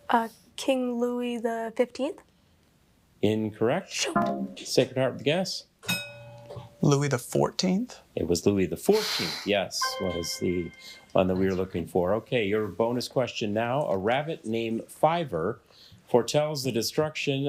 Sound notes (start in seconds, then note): 5.8 bell dings